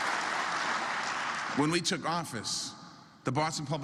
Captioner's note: applause